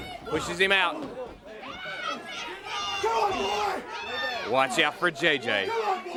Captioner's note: crowd chatter